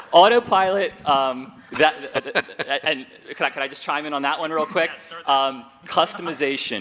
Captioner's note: laughter